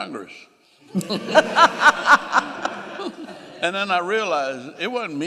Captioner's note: laughing